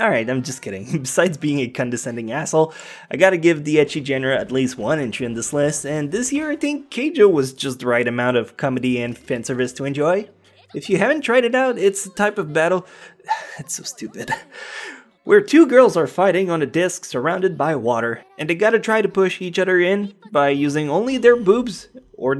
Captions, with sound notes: Alright I’m just kidding, besides being a condescending asshole I gotta give the ecchi genre at least one entry in this list And this year I think Keijo was just the right amount of comedy and fanservice to enjoy If you haven’t tried it out, it’s type of battle (sighs) it’s so stupid… Where two girls are fighting on a disk surrounded by water And they gotta try to push each other in by using only their boobs